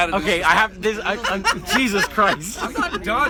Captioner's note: laughter